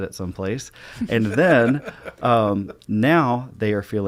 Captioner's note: laughs